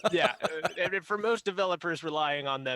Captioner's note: laughs